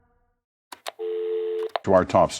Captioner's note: dial tone; click